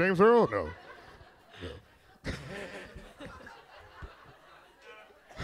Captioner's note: all laughing